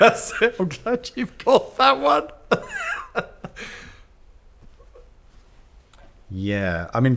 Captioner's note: laughs